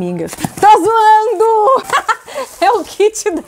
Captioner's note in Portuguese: risos